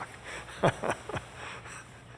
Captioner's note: laughs